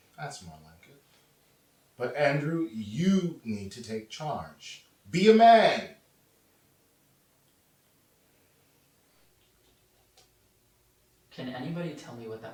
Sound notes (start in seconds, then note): none